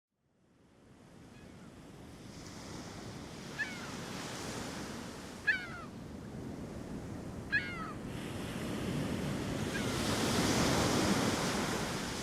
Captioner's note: waves crashing, seagulls cawing